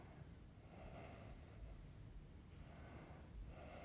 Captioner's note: breathes deeply